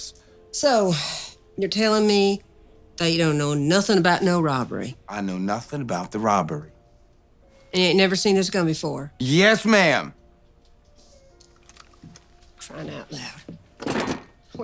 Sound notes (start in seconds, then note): none